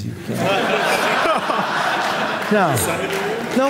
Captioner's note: audience laughing